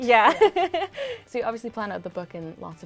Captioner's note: laughing